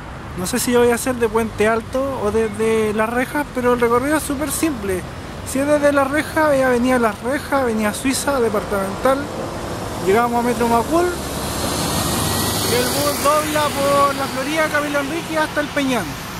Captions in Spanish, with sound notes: no sé si lo voy a hacer desde 'Puente Alto' o desde 'Las Rejas' pero el recorrido es súper simple si es desde 'Las Rejas', es avenida 'Las Rejas', avenida 'Suiza', 'Departamental', llegamos a Metro 'Macul' (sonido de un bus) y el bus dobla por 'La Florida', 'Camilo Henríquez' hasta 'El Peñón'